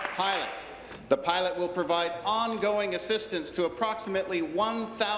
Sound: applause

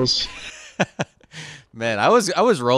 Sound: laughing

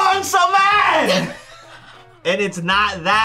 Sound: laughs

